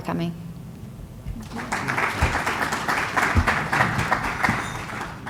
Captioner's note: applause